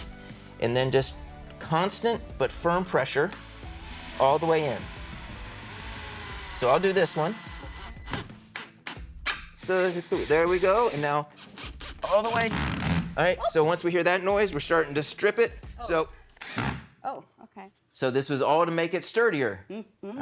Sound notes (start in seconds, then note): 7.4 drill whirring; 9.6 drill whirring roughly; 16.2 drill whirs